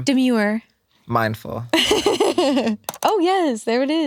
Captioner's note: laughs